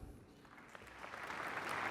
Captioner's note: applause